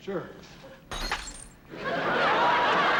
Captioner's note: breaking glass